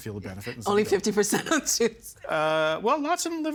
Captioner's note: laughing